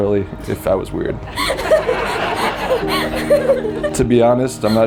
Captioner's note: and spectators laughing